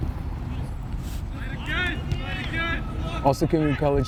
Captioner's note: players shouting